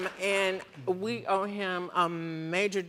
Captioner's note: audience applauding